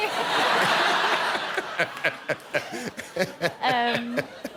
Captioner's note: laughter